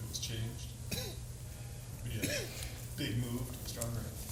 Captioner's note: somebody coughing